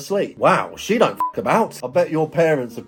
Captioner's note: beep